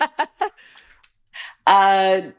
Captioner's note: laughing